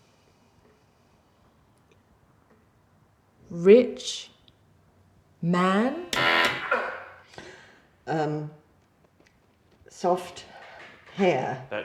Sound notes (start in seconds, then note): 6.0 machine blaring; 6.5 grunting